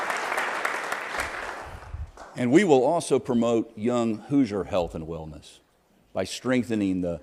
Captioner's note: applause